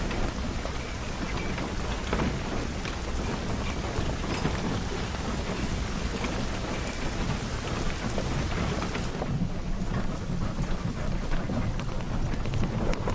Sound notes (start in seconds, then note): 4.8 raining